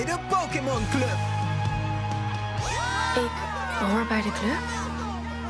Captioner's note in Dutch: gejuich